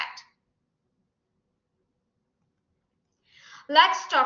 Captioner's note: silence